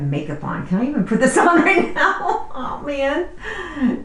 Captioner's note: laughs